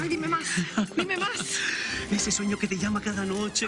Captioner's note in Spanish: Ríe